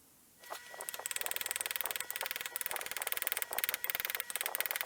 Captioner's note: hammer tapping